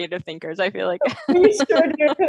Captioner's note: laughing